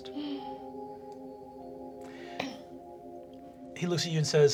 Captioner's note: tense music; gasping